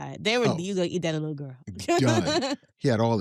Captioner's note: laughs